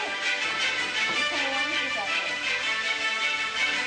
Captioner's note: teacher hums